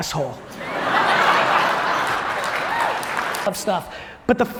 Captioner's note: audience laughs